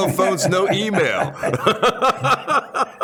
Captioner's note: laughter